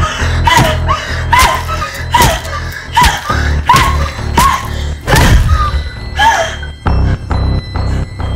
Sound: heavy breathing

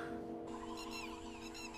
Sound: sighs

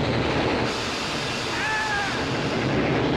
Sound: screaming

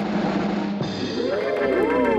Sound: gasps

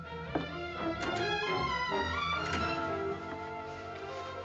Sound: door Opens, Closes

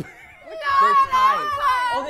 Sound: happiness sounds

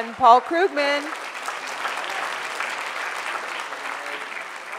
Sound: audience applause

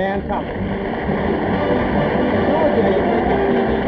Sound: audience applauding

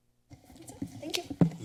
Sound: rumbling sound

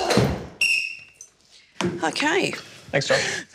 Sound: blows whistle

